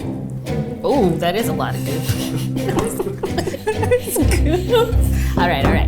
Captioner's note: laughs